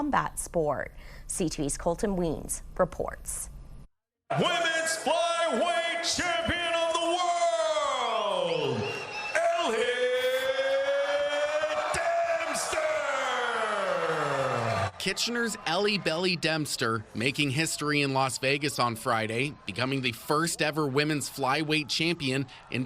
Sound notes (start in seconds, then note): 14.2 applause